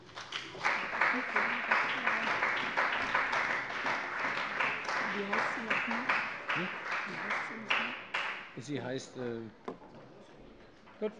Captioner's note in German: Beifall bei dem BÜNDNIS 90/DIE GRÜNEN und der CDU